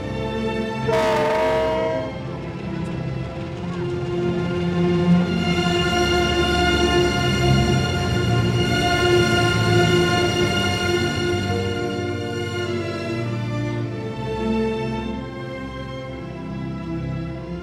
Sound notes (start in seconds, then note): 0.8 train horn honks; 11.5 beautiful melancholy music continues